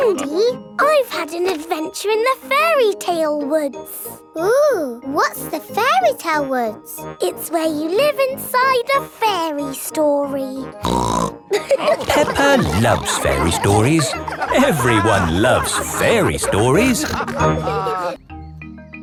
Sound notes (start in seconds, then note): 10.8 snorts; 11.5 all laughing